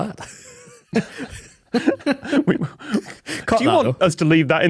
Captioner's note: both crack up